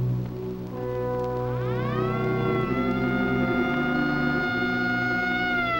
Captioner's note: siren wailing